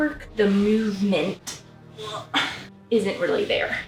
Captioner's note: sounds of stuggle